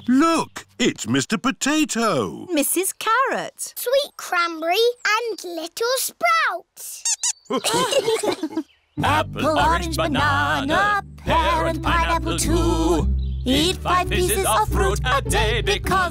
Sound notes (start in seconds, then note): 7.0 squeaks; 7.5 laughter